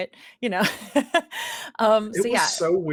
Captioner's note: laughs